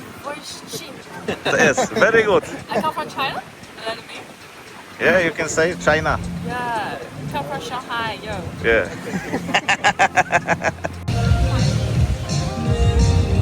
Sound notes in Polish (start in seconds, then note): 9.0 śmiech